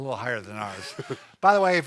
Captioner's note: laughs